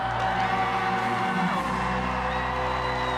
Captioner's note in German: publikum jubelt